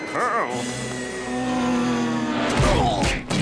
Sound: screaming quietly; grunting

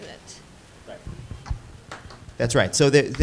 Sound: student applauding

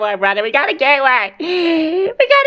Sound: breathes in

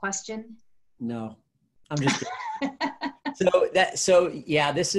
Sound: laughing

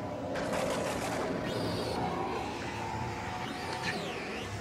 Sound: eerie snarling

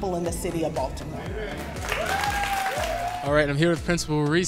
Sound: crowd cheering

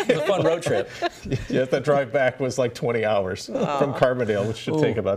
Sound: laughter

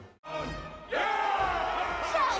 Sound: everyone cheering

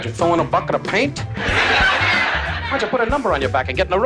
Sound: laughing

